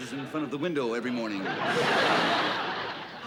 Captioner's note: laughter